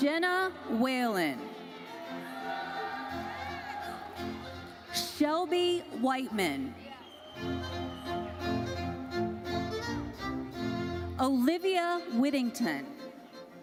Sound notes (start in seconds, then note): 2.2 audience cheering and applauding; 7.4 orchestral music continues